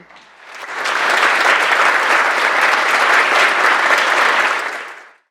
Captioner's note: audience clapping